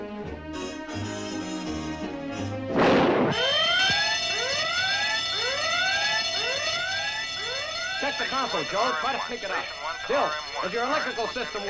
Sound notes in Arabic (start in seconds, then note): 2.7 دوي، انطلاق الإنذار